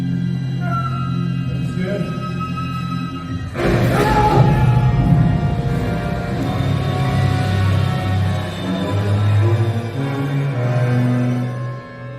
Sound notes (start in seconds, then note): 3.7 Indiana Jones screams; 5.5 suspense music continues